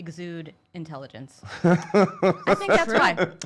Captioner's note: laughing